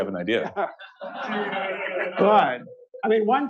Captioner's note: laughter